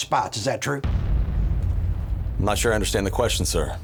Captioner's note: distant bomb rumbling